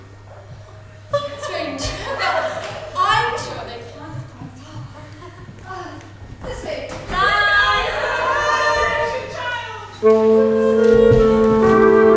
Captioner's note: groan and cough in response